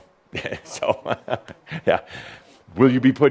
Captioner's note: chuckles